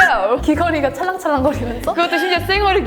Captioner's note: laugh